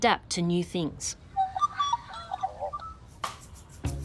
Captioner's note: magpie carols